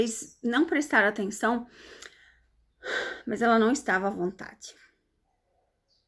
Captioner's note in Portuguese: suspirando